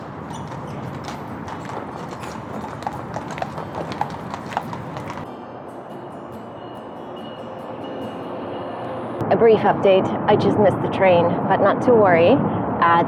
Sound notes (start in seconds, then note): 0.0 horse hooves on pavement; 5.3 train bell ringing